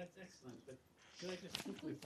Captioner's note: laughter